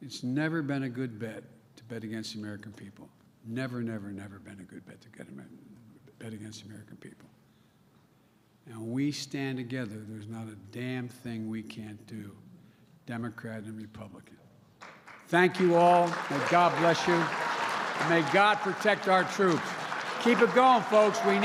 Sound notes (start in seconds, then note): 14.6 applause